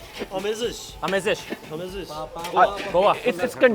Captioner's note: speaks foreign language